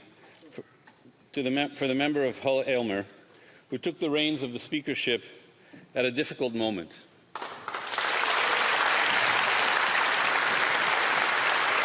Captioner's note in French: voix de l'interprète